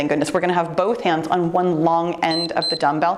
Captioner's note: timer beeps